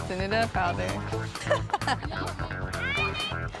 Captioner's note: laughing